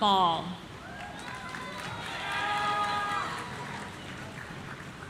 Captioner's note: audience cheering